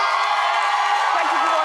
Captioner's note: audience cheering